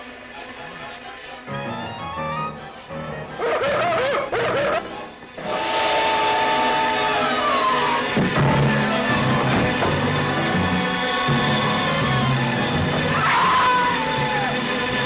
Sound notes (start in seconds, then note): 0.3 dramatic music; 3.4 dog barking; 5.2 tires screeching; 8.1 thudding; 10.8 screaming